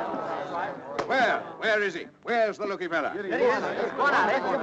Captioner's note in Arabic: الناس يتحادثون